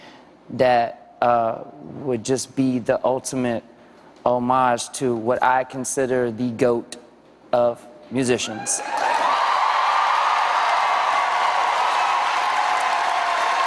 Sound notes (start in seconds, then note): 8.5 cheers and applause; 10.4 cheers and applause continue